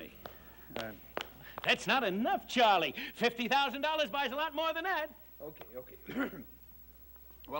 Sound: coughs

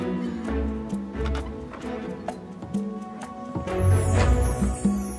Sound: door opens, closes

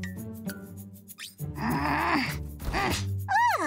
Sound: groaning

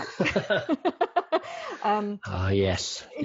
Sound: laughing

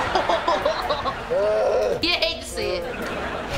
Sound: laughing; Ray groaning

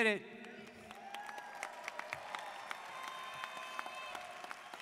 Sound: students applauding

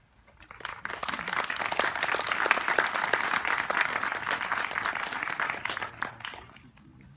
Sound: applause

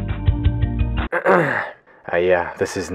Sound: clears throat

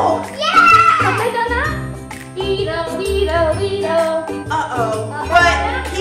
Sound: minion sounds

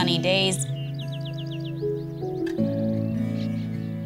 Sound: birds chirping

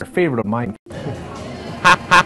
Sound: awkward chuckle

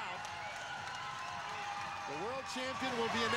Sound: crowd cheering

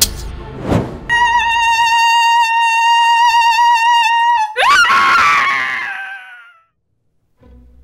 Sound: ghost howl, scream

